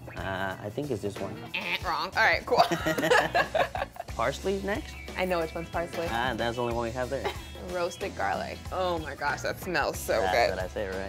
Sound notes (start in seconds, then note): 2.5 laughter